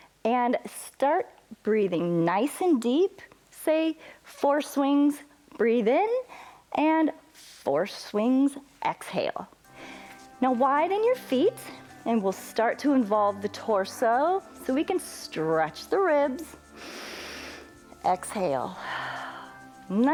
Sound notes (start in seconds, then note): 16.6 exhales; 16.7 inhales